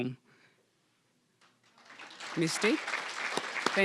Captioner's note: applause